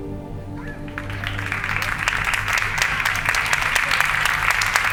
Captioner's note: audience clapping